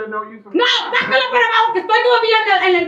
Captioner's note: yelling in Spanish